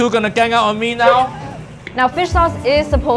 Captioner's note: chucking